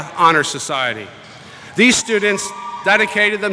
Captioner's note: cheering